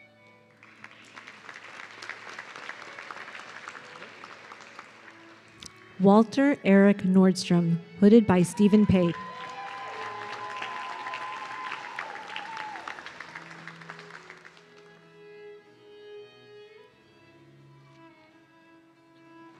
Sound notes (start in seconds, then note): 0.4 audience clapping; 8.3 audience cheering